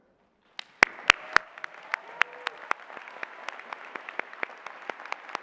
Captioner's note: applause